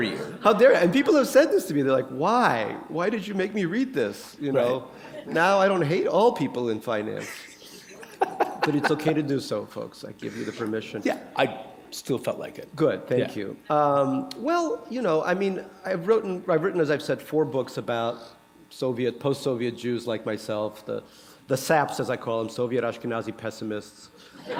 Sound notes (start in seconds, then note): 7.2 chuckle